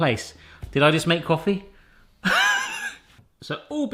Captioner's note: laughs